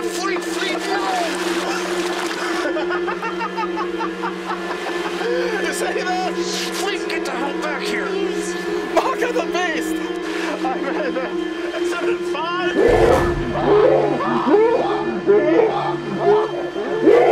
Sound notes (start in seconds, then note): 1.6 fleete laughs; 12.8 growling, shrieking